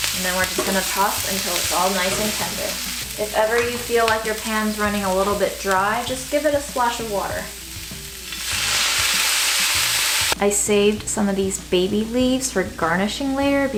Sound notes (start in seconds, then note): 7.6 sizzling sound